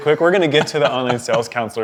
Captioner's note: laughing